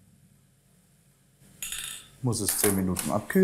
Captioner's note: clinking